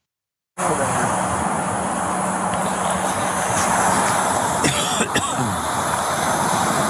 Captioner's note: cough